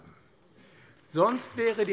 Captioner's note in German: Beifall AfD